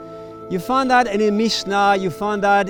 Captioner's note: speaking in foreign language